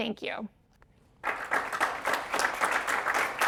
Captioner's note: audience applauds